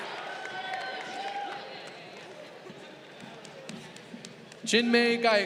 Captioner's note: crowd cheering